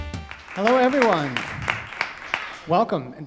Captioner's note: audience Claps